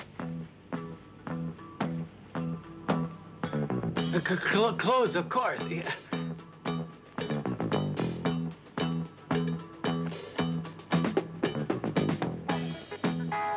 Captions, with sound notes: (rhythmic music) The clothes, of course. (laughs) (rhythmic, jazzy music)